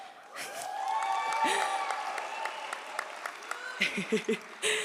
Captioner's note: audience applauds; audience cheers; laughs